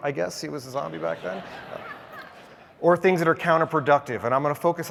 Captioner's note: laugh